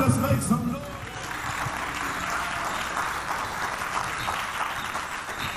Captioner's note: audience clapping